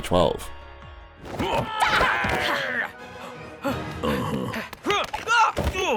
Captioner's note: dramatic music; characters grunting; yelling